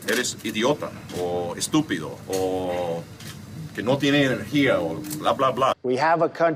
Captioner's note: speaking in a foreign language